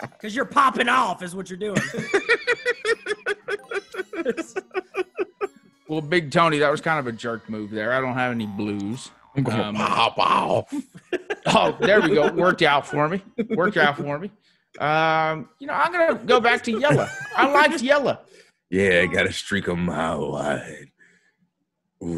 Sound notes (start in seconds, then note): 4.7 laugh; 8.2 laugh